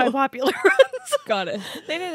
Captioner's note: laughing